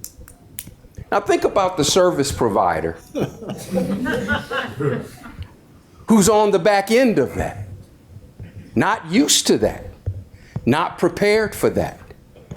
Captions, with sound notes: Now think about the service provider... (audience laughs) Who's on the back end of that. Not used to that, not prepared for that.